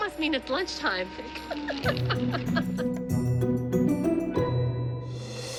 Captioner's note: laughter